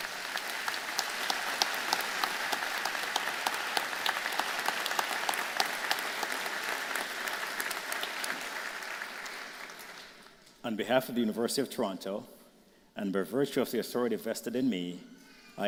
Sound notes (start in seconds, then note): 1.9 applause